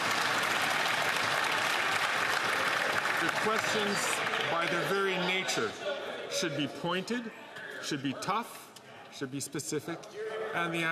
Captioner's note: applause